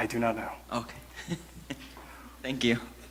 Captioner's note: laughs awkwardly